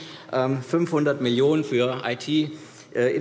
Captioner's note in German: none